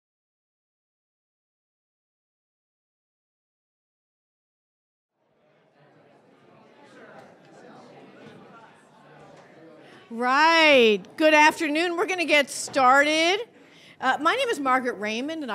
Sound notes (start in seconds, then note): 5.7 audience murmuring